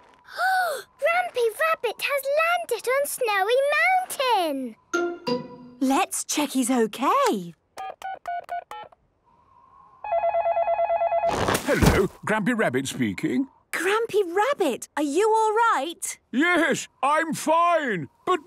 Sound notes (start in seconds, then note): 7.6 dial tones beeping; 10.0 phone ringing